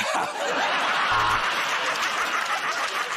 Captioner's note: buzzer buzzes; laughter